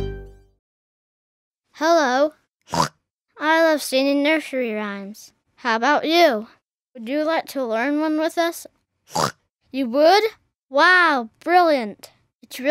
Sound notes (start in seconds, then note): 2.6 oinks; 9.1 oinks